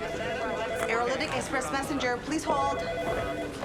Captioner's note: phones ringing